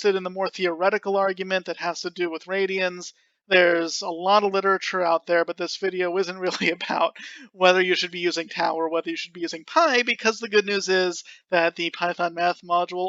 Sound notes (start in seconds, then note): 6.4 laughing